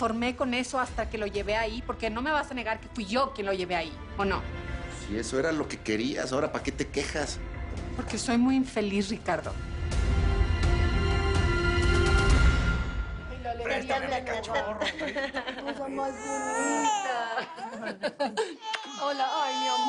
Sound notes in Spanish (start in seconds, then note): 14.0 Tararea; 15.9 Llanto del bebé; 17.2 Risas